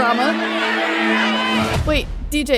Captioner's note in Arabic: هتاف الجماهير